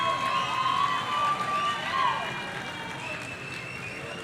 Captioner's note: audience cheering